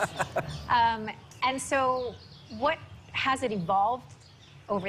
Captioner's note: laughing